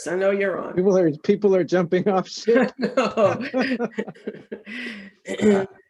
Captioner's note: laughing